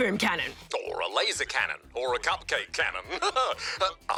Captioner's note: laughs